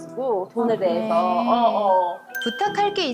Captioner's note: sympathizing sound